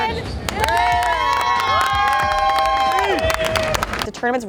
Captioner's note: cheering